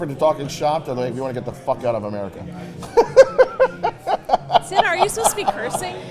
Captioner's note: laughs